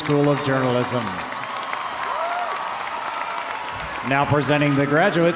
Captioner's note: audience applauding; audience cheering